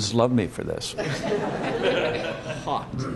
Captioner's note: laughter